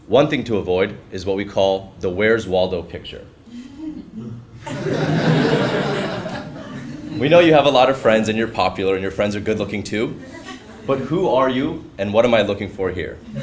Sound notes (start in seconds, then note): 3.6 laugh; 13.2 laugh